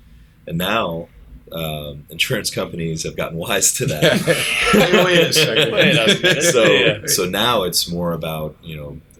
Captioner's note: laughter